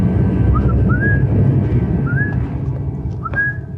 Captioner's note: whistles